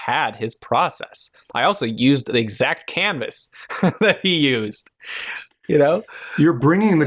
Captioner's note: chuckles